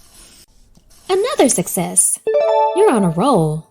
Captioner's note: pencil scratches; check mark dings